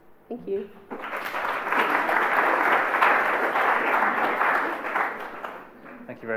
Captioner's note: applause